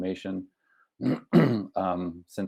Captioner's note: clears throat